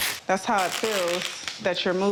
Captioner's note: tape rasping